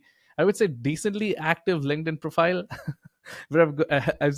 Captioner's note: chuckling